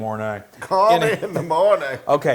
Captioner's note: laugh